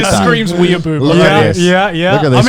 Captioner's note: both mumbling